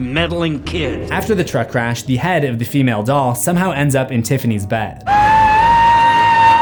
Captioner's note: screams